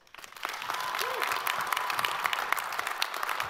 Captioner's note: all applaud